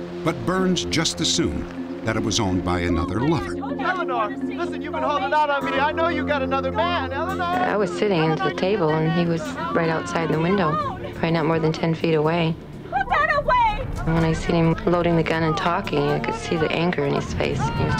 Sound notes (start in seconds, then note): 3.7 arguing